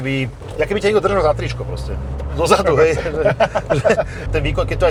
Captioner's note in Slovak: smiech